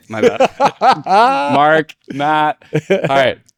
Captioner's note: laughing